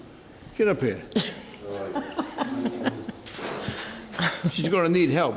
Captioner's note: laughs